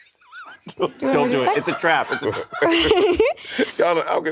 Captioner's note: Monét laughing; crew laughing